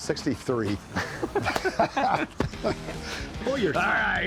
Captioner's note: both laugh